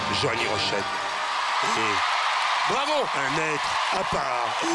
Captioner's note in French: acclamations